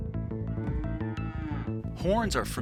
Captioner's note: cows mooing